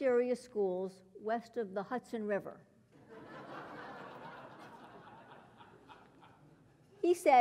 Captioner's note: laugh